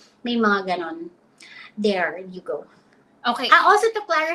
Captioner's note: speaks in Filipino